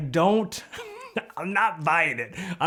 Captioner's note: laughs